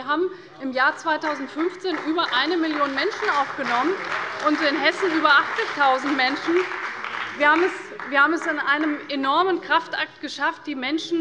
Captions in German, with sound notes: Wir haben im Jahr 2015 über 1 Million Menschen aufgenommen und in Hessen über 80.000 Menschen. [Beifall bei der CDU und dem BÜNDNIS 90/DIE GRÜNEN] Wir haben es in einem enormen Kraftakt geschafft,